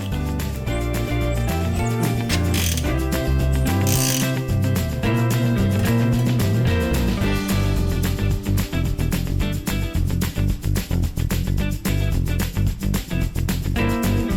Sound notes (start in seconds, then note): 3.6 wrench cranking